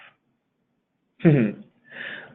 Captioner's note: laughs